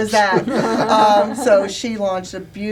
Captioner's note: laughter